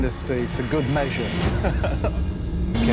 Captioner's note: laughs